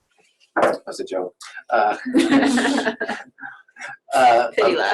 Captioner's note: laughs